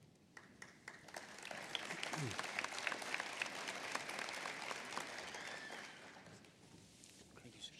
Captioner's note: applause